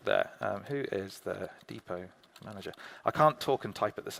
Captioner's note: keyboard clicking